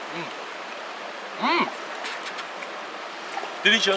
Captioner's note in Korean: 감탄